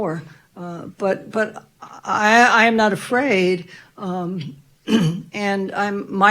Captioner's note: clears throat